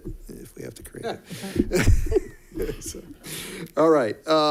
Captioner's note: laughs